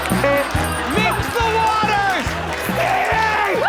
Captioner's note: horn sounds